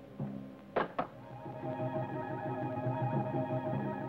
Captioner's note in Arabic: طقطقة الصخور